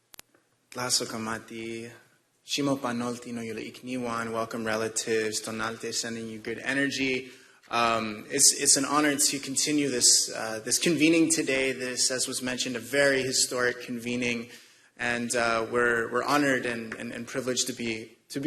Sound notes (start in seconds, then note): 2.2 speaking non-english